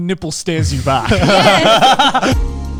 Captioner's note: all laughing; bright upbeat music